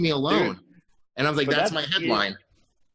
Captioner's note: laughs